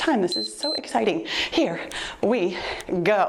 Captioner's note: timer beeps